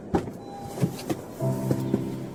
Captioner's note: car door clicks open then closed; brooding music